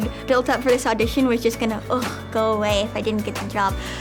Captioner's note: sighs